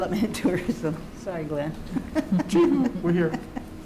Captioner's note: chuckles